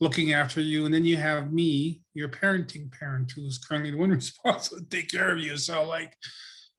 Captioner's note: laughs